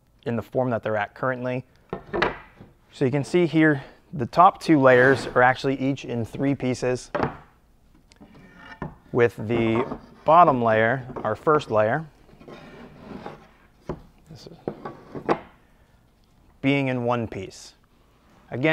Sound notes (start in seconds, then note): none